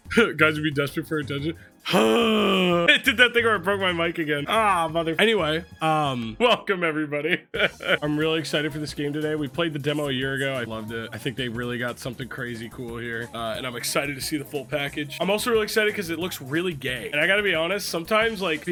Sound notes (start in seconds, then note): 1.8 groans; 1.9 chuckles; 7.3 laughs